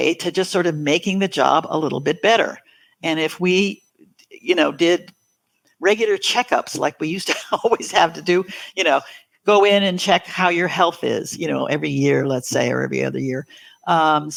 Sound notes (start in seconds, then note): 8.4 laughs